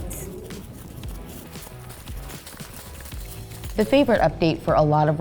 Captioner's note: running footsteps crunching leaves